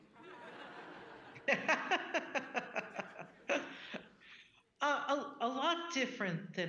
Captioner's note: audience laughing; Justice Sonia laughing